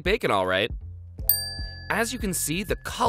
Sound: dings

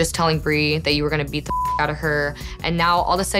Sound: beep

